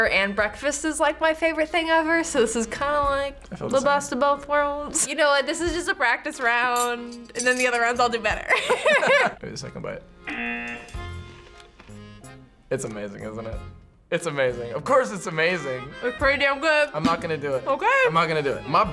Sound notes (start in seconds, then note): 8.5 laughs; 10.2 buzzer rings